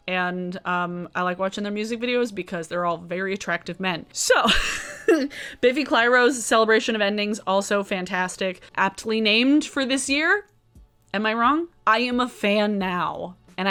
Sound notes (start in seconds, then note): 4.5 laughing